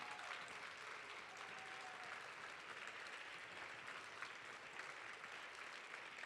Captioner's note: audience cheering